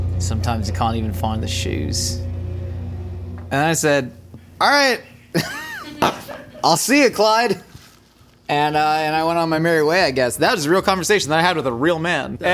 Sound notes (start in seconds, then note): 5.3 laughing